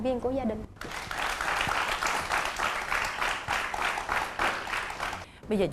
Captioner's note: applause